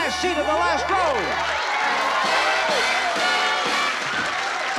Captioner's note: applause